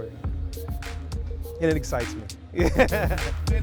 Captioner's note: laughs; hip hop music